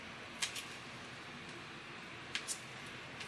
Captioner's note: light sticky noises